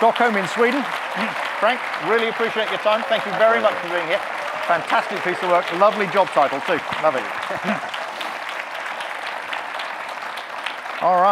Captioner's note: audience clapping; audience clapping